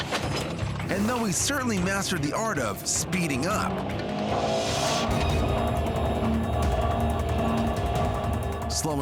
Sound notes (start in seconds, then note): 4.4 car engine revs